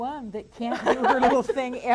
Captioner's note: laughs